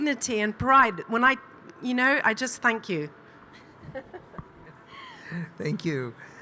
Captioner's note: chuckling